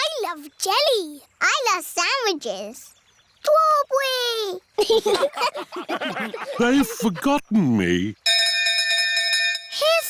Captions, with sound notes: -I love jelly. -I love sandwiches. -Strawberry! -(LAUGHTER) They've forgotten me.